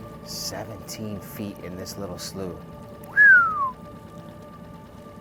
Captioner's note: whistles